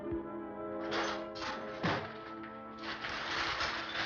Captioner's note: metal clanging